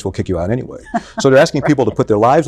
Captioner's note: chuckles